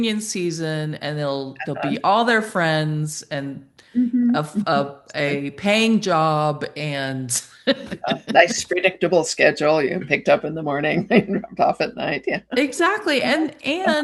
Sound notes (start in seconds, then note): 7.7 chuckles